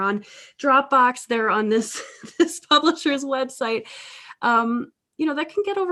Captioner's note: laughs